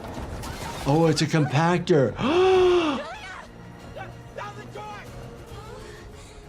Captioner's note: gasps